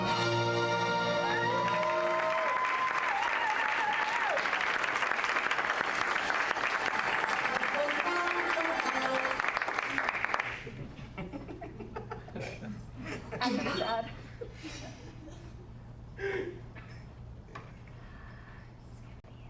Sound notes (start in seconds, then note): 8.5 applause